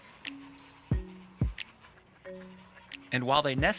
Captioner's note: geese honking